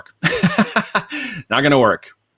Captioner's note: laughing